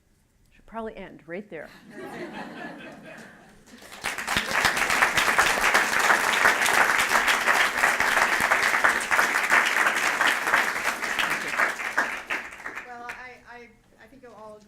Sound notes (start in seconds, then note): 1.7 laughter; 3.6 applause